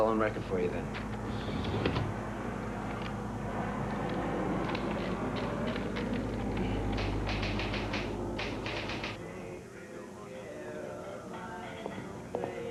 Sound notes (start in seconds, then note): 8.3 typewriter keys clacking